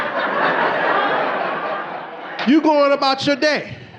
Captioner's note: audience laughing